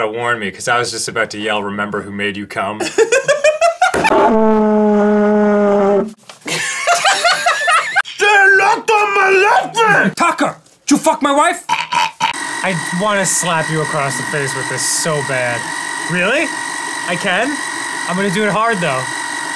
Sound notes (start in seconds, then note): 2.8 combo of laughing arin and speechless dan; 11.6 choking noises